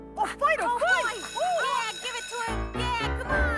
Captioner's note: bell rings